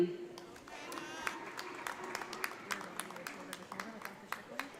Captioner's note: audience applauds